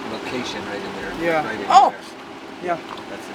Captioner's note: loud yelp; crew chattering